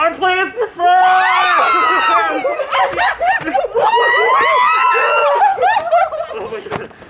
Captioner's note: whooping and cheering